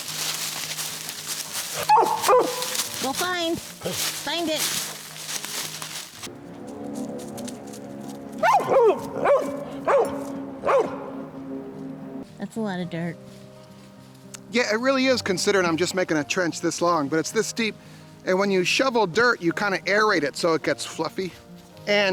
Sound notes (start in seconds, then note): 0.1 leaves rustling; 1.8 barking; 8.4 barking